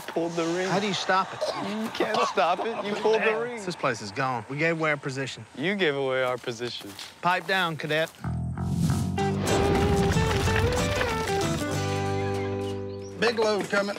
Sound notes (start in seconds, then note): 2.0 coughing